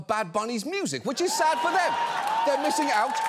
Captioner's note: audience cheers